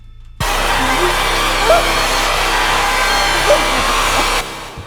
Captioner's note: sudden discordant static noise